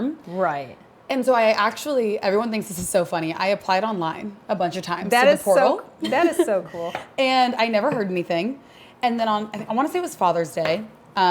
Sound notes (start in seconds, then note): 6.0 chuckles